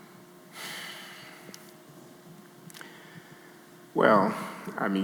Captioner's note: Glenn sighing